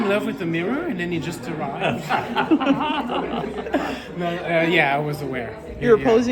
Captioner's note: laughter